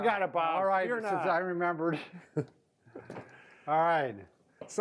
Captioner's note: laughs